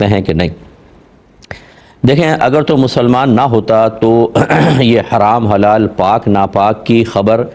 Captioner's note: clears throat